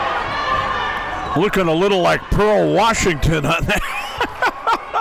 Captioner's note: laughs